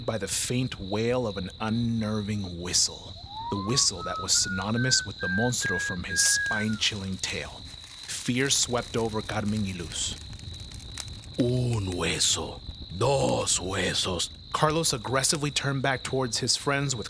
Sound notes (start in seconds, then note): 3.1 whistling; 11.4 speaking Spanish